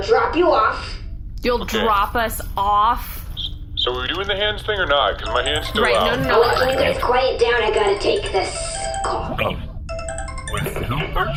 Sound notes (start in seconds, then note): 5.2 jingly ringtone starts playing